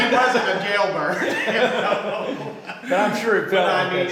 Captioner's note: group laughing